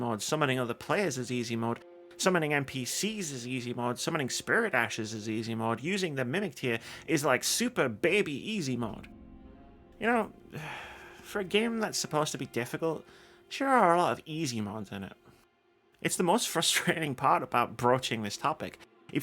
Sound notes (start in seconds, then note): 10.5 sigh